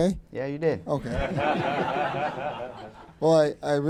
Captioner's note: laughter